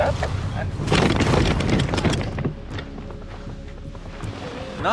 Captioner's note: wheelchair thuds